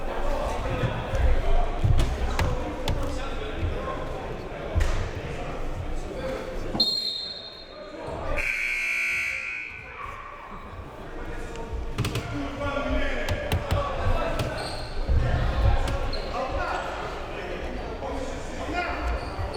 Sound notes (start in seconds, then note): 8.3 whistle; 8.4 buzzer